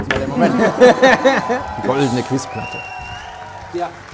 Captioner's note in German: Jubel, Pfiffe